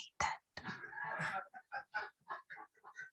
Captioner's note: laughter